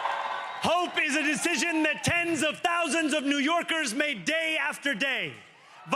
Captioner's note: cheering